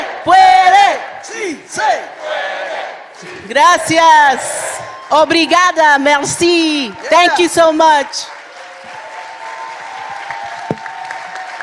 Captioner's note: chanting